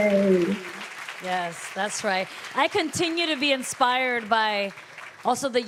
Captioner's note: applause